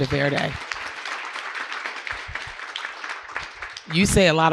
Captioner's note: audience clapping